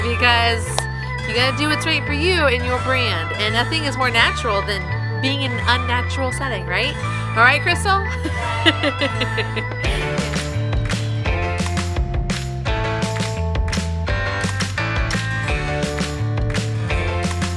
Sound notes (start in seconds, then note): 8.0 laughing; 10.3 upbeat music